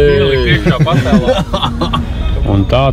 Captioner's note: laughs